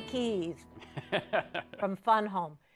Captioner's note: chuckles